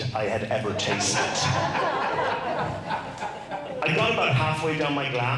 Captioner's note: crowd laughs